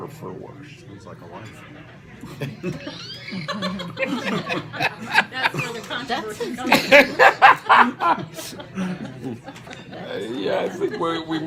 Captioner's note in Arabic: صوت ضحك